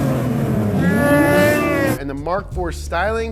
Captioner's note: roaring